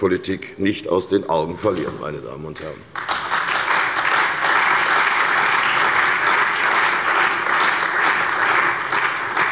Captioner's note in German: Beifall bei der CDU und dem BÜNDNIS 90/DIE GRÜNEN